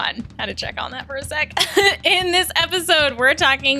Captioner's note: laughter